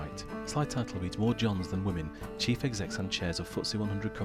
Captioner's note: voiceover